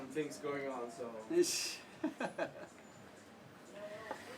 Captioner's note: laugh